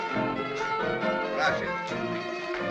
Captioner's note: in spanish